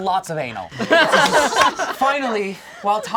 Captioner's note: all laugh